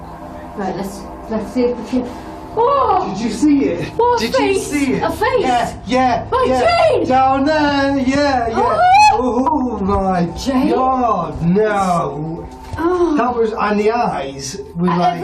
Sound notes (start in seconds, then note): 2.3 gasps; 8.5 squeals